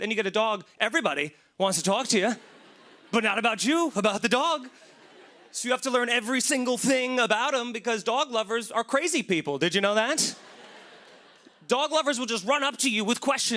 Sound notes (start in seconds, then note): 10.3 laughter